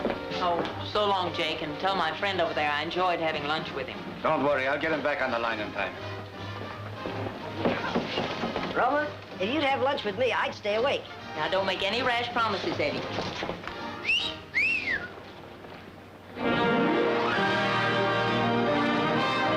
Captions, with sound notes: Oh, so long, Jake, and tell my friend over there I enjoyed having lunch with him. Don't worry, I'll get him back on the line in time. Roma, if you'd have lunch with me, I'd stay awake. Now, don't make any rash promises, Eddie. [whistling] [instrumental music]